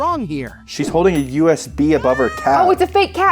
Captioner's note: cat meowing